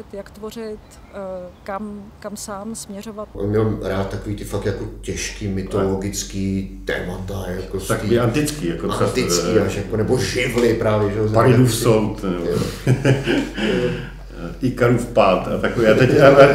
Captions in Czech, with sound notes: jak tvořit. Kam sám směřovat. On měl fakt rád ta těžká mytologická témata. Vždycky, jako vždycky... Anebo živly právě, že jo... Paridův soud... (smích) Ikarův pád...